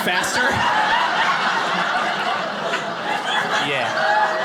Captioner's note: audience laughing